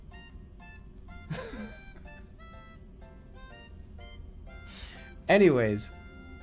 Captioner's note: giggling